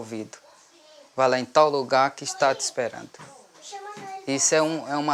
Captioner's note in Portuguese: Vozes de crianças no ambiente